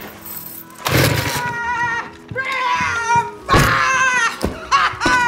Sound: shouting

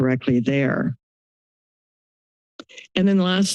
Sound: silence

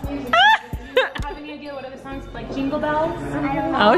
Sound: laughing

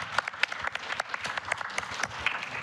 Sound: applause

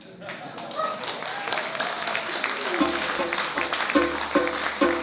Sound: applause

